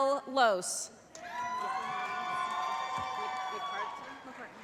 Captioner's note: applause